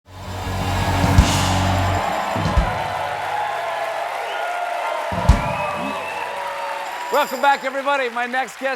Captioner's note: cheers and applause